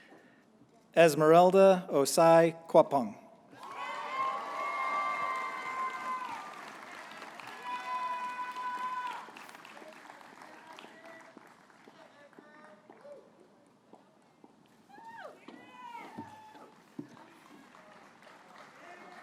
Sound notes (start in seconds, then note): 3.6 applause